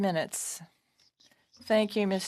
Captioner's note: speaking French